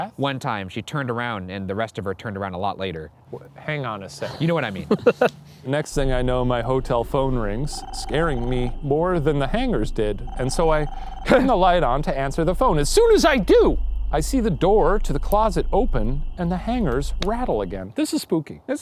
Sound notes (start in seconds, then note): 4.2 laughs